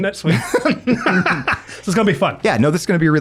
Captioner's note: both laughing